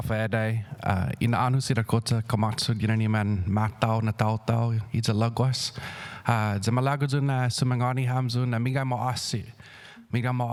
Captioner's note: speaking indigenous language